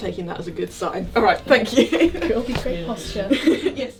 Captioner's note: laughing